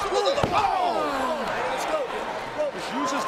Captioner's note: commentators exclaim